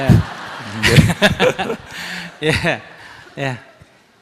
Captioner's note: questioner laughter